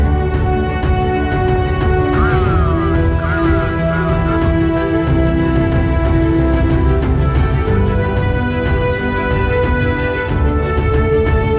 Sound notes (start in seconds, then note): 2.5 person speaking on walkie-talkie; 6.7 dramatic music continues